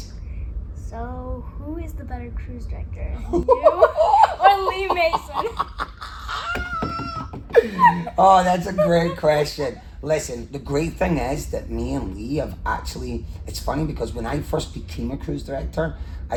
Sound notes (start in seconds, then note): 3.2 laughs